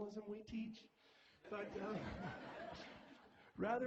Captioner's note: laughter